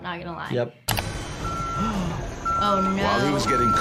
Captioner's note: machinery beeping